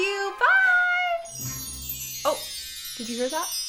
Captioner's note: chimes twinkling